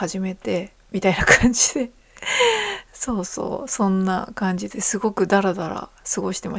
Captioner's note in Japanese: 息をのむ音